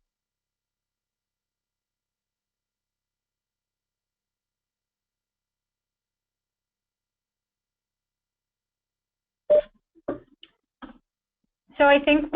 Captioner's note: pause